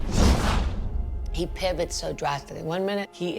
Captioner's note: whoosh